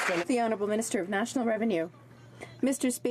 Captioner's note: some Applause